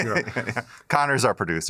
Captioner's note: chuckles